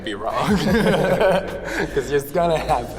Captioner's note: both laughing